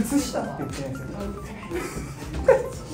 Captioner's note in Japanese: 小声